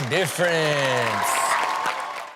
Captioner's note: audience cheers